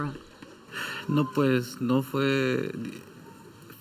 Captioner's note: speaking Spanish